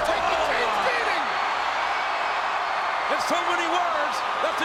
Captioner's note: audience cheers